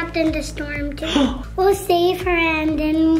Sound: dad gasps

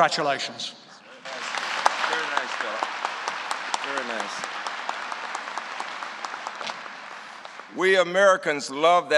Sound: applause

